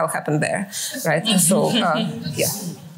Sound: laughter

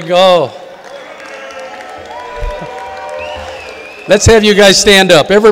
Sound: audience cheering and applauding

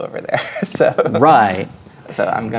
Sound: laughing

